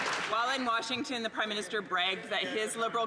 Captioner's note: some Applause